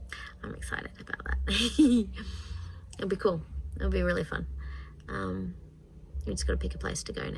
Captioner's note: giggles